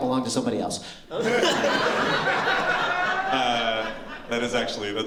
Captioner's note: laughter